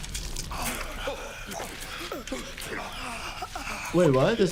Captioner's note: blood squelches; group gasps